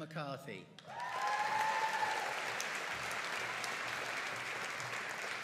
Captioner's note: audience cheering and applauding